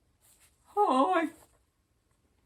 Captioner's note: in a silly voice